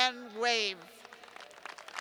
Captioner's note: applause